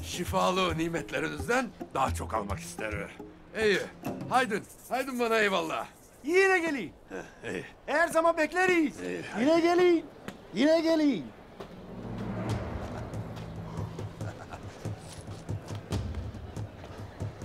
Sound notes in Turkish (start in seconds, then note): 13.7 Bamsı gülme sesi